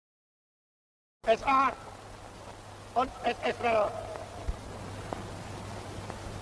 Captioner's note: speaks foreign language